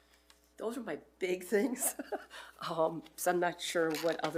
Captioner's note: laughs